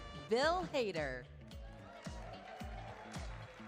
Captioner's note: applause, cheers